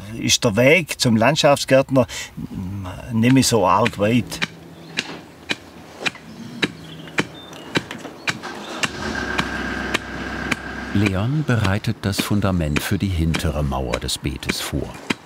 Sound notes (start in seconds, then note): 4.6 tumping sound